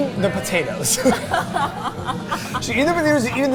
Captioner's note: both laughing